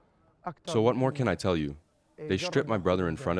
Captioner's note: through translator